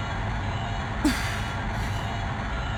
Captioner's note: sigh of relief